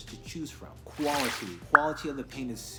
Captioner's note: swoosh pop